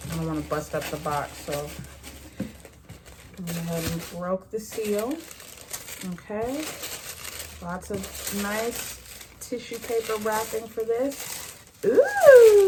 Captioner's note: squeals